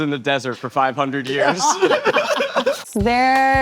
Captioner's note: both laughing